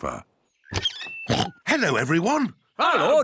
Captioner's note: oinks